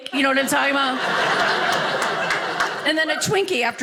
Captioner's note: audience laughing